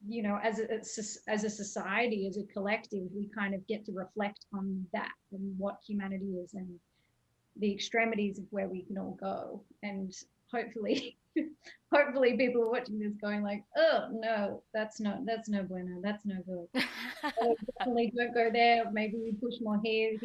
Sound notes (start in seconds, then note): 10.9 chuckles; 16.7 laughing